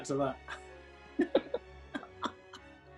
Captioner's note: giggling